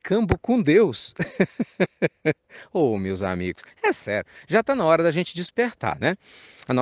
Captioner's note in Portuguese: risadas